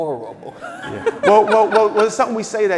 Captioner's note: laughing